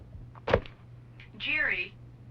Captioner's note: on phone